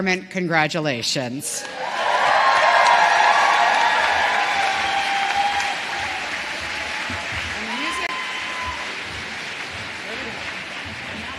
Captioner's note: cheers and applause